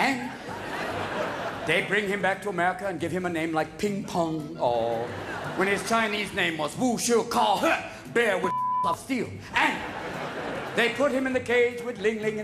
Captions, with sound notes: AND THEY BRING HIM BACK TO AMERICA AND GIVE HIM A NAME LIKE PING-PONG, AW. WHEN HIS CHINESE NAME WAS-- (SPEAKING GIBBERISH) BEAR WITH ... OF STEEL. AND THEY PUT HIM IN THE CAGE WITH LING-LING